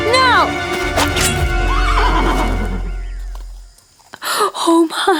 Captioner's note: horse neighs; sword clinks; sighs